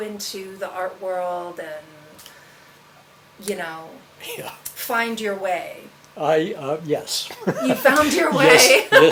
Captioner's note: laughs